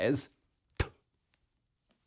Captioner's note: spit